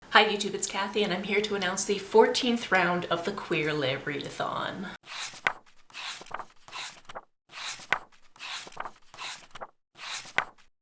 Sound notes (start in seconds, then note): 4.9 pages turning